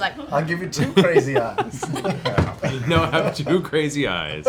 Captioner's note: laughs